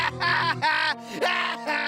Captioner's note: laughing